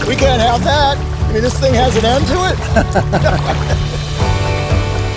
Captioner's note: laughing